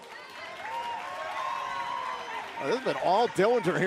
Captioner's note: cheers and applause